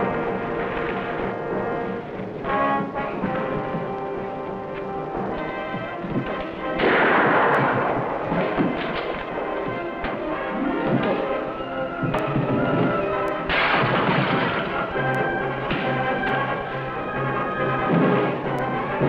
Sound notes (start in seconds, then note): 6.8 gun blasts; 13.5 kachina crashes; 15.9 scuffling